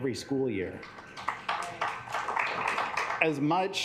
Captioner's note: assembly clapping